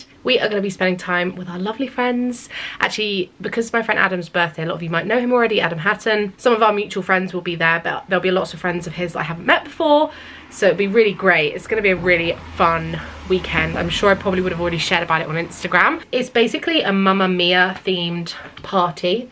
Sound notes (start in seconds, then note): none